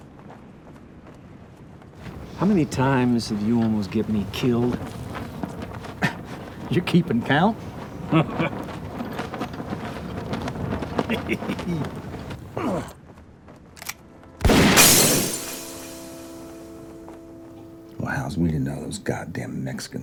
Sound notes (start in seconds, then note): 7.6 chuckles; 12.0 gunshot